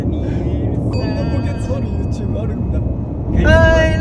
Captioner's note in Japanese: 効果音 チーン